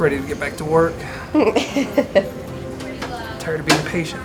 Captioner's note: chuckling